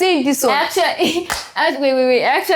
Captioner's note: laughs